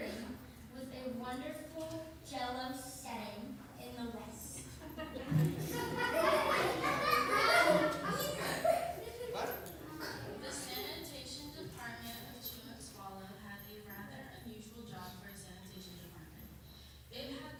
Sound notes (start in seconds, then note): 7.3 laughter